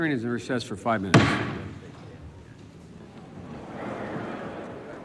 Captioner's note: gavel bangs